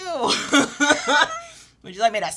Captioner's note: laughs